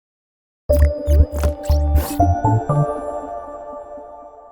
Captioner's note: curious music; pencil squeaking